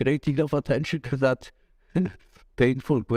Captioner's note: chuckle